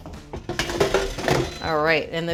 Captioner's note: bright music; air fryer buzzing